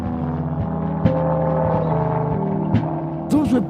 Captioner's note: plane engine roaring